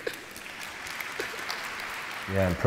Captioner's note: audience clapping